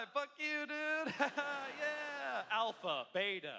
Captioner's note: laughter